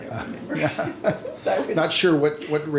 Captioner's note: laughing